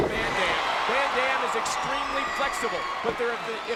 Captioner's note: crowd cheering